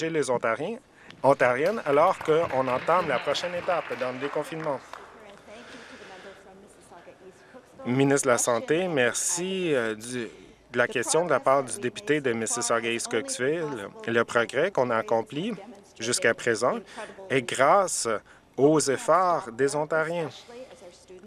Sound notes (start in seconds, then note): 5.1 some Applause